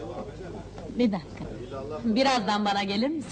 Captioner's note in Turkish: komşularin konuşma sesleri̇